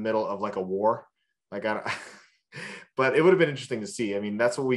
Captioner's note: laughs